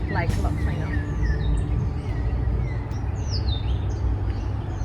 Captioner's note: birds chirping